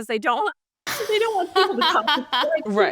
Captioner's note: laughs